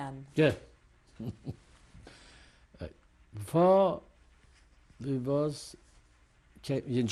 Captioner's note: laughs